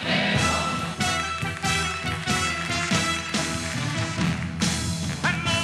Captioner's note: applause